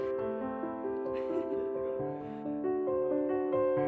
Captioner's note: haha